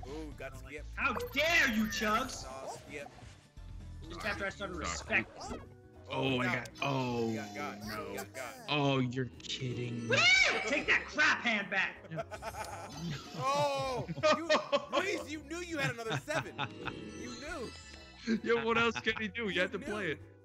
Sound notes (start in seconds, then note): 11.8 laugh